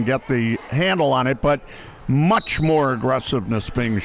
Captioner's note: referee blows whistle